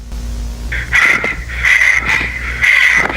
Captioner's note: panting